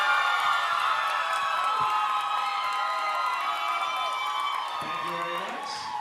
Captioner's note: audience cheering and applauding